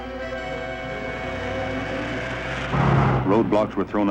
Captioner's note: car engine revving